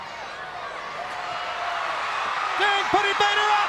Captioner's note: crowd cheering